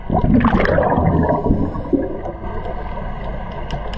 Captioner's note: underwater bubbling and breathing sounds